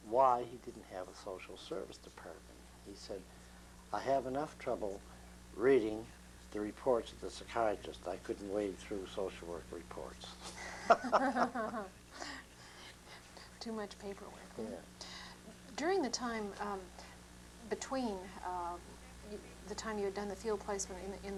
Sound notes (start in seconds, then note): 10.4 laughter